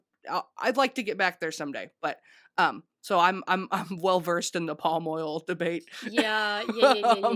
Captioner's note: laughs